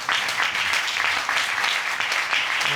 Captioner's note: audience clapping